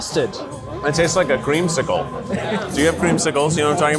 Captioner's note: laughs